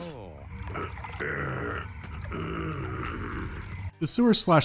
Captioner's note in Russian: приглушённое ворчание